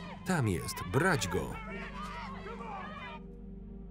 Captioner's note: crowd; crowd